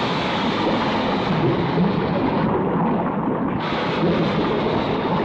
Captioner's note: liquid bubbling; steam hissing